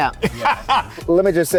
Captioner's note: laughs